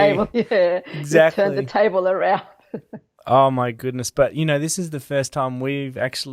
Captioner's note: laughs